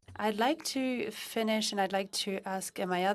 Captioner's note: speaking French